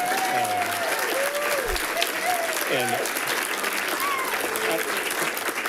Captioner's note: people giggles; people cheering and clapping